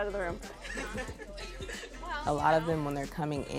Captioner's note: students laughing and chattering